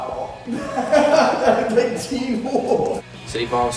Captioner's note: laughs